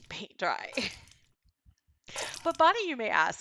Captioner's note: splat sounds